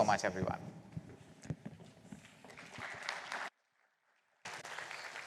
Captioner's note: applause